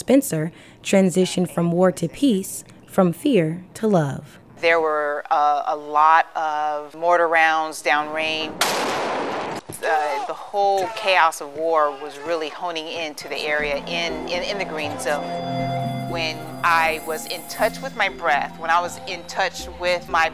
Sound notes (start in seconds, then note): 8.6 explosion; 13.2 peaceful music